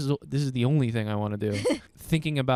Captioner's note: laughing